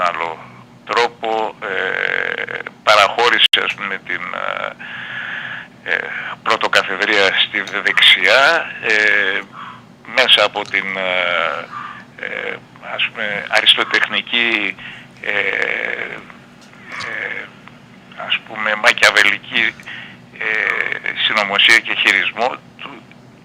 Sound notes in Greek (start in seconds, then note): 5.3 ξεφυσάει; 6.4 αναστενάζει